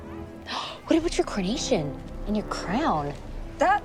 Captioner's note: gasps